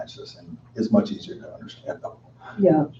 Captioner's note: chuckles